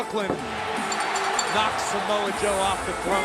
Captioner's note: bell ringing